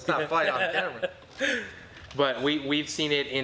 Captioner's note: laughing